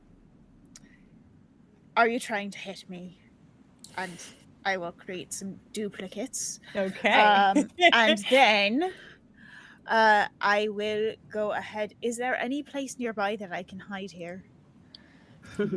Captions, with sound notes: are you trying to hit me, and I will create some duplicates. - Okay. (laughs) - And then I will go ahead. Is there any place nearby that I can hide here?